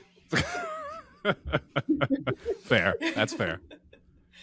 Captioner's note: laughing